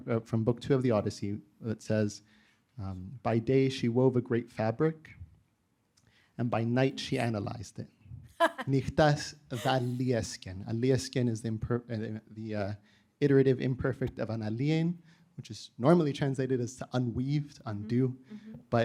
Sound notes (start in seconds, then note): 9.1 audience member speaking foreign language; 9.5 chuckling